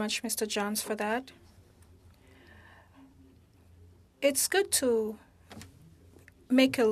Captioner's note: speaking French